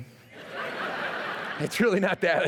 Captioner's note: laughter